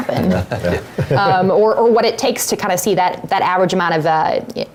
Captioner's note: laugh